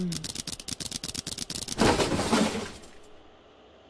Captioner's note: crash